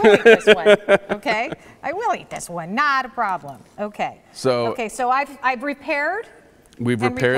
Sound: laughing

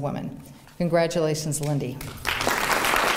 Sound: applause

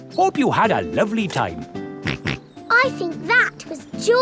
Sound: snorts

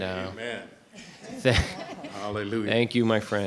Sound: laughing

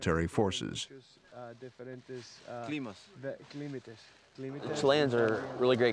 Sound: speaking in a foreign language

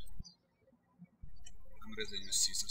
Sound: birds chirping

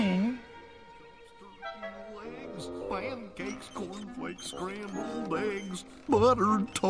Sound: the sound of chaos ensuing

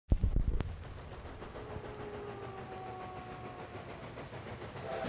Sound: train engine

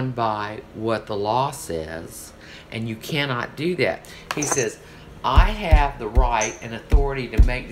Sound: pounds table

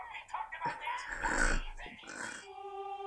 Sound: guffaws

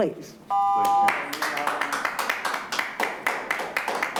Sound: clapping

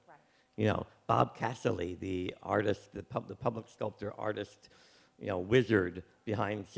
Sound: none

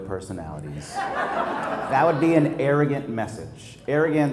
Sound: laugh

